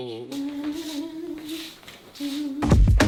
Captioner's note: humming